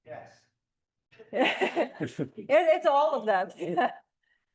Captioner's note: laughs